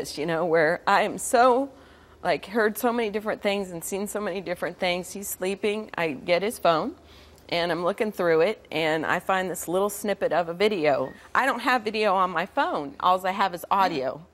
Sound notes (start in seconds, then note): none